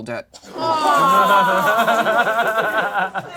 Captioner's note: all laugh